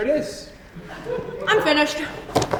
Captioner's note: audience laughs softly